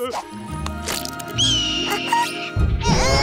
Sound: bird screeching; crying

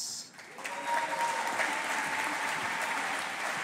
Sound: audience applauding

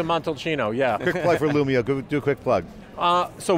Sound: laughs

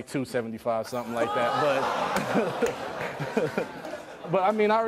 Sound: audience groans

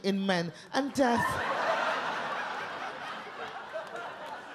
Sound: audience laugh

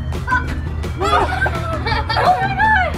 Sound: upbeat music; kids laughing

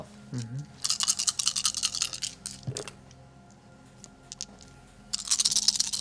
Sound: dice rattling as they hit the table

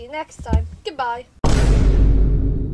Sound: vine boom playing

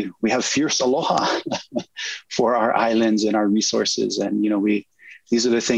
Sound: chuckles

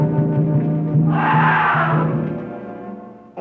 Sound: screaming

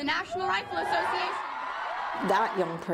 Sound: cheering and applause

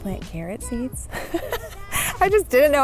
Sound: laughing

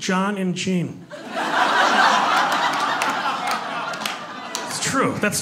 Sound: laughter and clapping

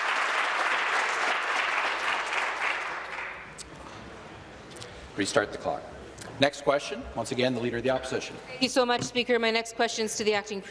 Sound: applause

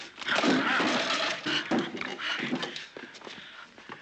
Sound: men grunting

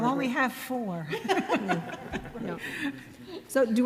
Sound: people laughing

